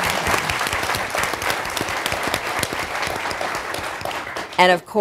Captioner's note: applause